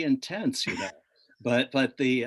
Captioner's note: laughs